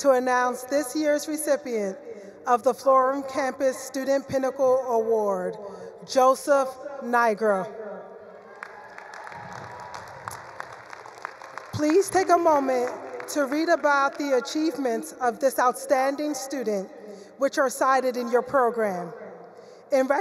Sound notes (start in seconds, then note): 8.4 attendees cheering; 8.4 attendees applauding